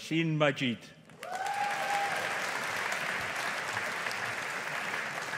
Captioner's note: audience applauding